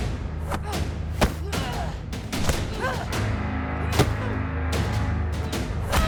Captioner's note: grunting; smacking; dramatic orchestral music